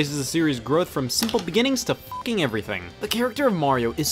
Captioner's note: beeps